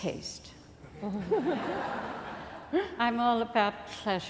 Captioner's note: laughing